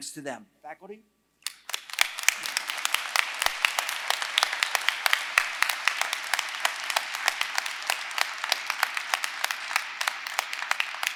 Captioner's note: applause